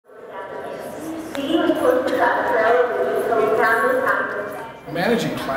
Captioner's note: hallway Chatter, Music